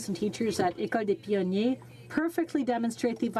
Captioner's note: speaking French